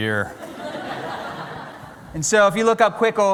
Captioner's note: laughter